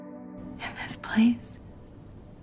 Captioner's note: voiceover; whispering